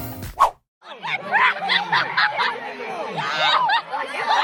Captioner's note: fans screaming